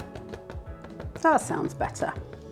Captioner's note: hollow knocking